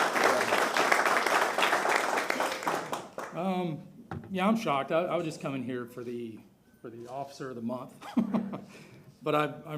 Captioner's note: applause